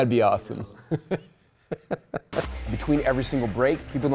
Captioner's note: laughing